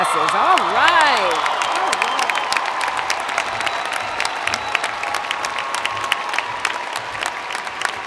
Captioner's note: cheers and Applause